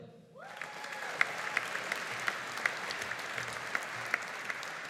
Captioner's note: audience applauding